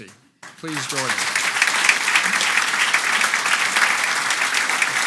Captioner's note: audience applauds